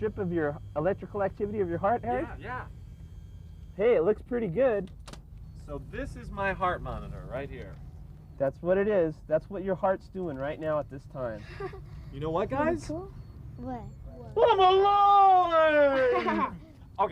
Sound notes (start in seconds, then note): 11.4 laughter; 15.9 laughter